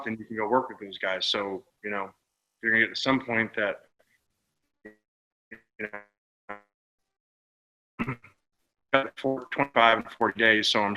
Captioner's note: audio drop